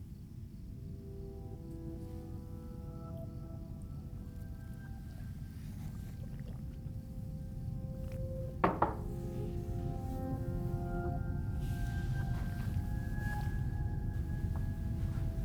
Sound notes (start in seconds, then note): 0.2 gentle music; 8.6 glass thudding; 11.8 gentle music